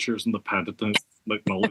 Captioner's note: laugh